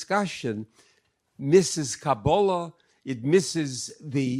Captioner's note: speak in foreign language